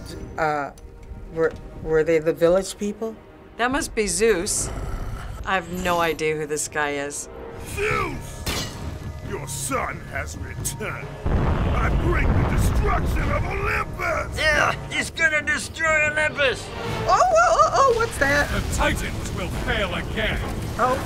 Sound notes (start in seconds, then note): 4.3 Hades growls; 11.2 flames rage